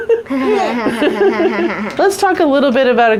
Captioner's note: group laughing